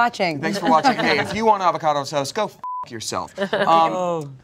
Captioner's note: beep